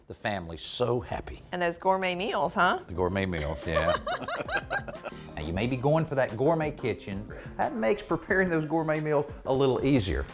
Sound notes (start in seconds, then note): 3.4 laughter